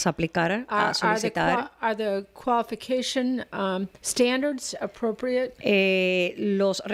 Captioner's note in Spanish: Hablando ingl\s